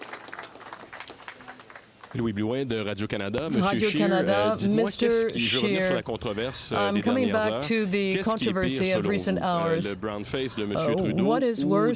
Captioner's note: applause